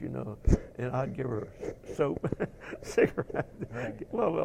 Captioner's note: laugh